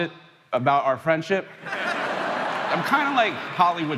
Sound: crowd laughing

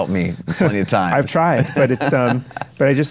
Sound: Chase laughs

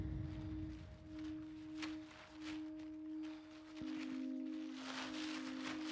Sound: plastic rustling

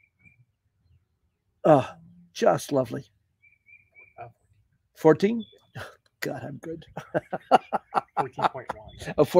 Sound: laughter

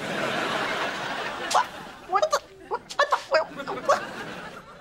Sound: stammering

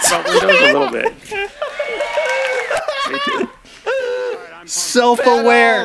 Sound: laughing in pumpedness

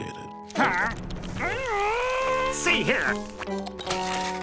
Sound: growling

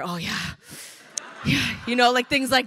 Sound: crowd laughing

